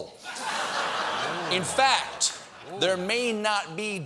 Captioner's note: laughter